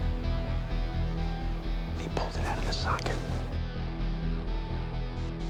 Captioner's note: whispering